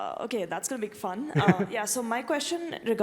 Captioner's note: laugh